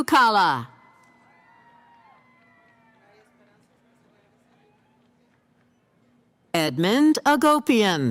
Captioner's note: cheering